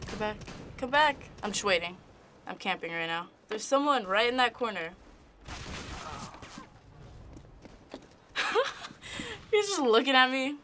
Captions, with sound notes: Come back. Come back! I'm just waiting. I'm camping right now. There's someone right in that corner. (gunfire) (in game: death groan) (snickering) He's just looking at me.